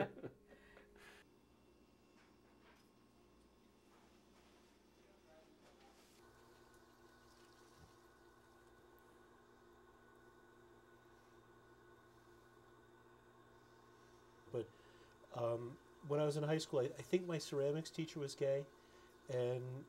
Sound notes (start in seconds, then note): 6.4 pottery wheel whirs